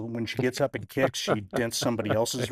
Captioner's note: laughing